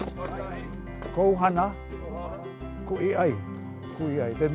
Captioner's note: speaking Hawaiian